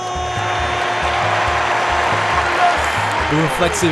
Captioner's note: yelling in foreign language; audience cheering; audience applauding